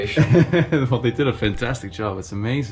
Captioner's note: laughs